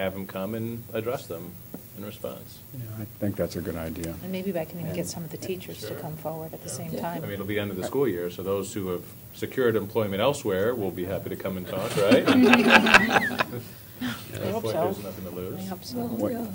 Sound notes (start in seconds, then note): 11.7 laughter